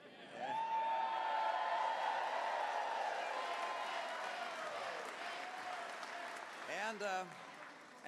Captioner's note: cheers/chants